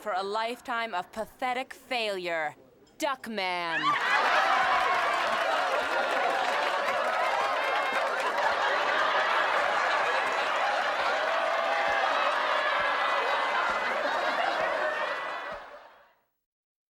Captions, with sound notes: for a lifetime of pathetic failure-- Duckman. (boisterous laughter and applause)